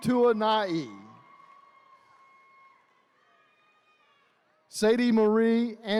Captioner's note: attendees cheering